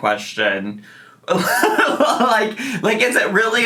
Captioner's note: chuckling